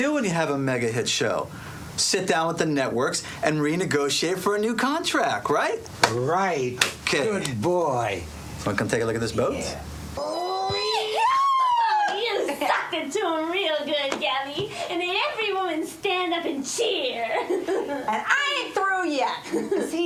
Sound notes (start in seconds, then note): 10.1 women squealing